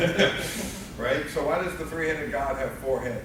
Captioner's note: laughing